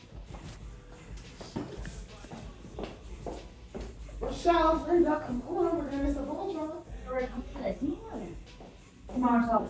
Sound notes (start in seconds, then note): 2.7 heels clicking